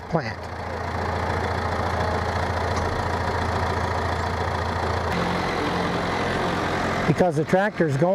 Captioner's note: tractor sound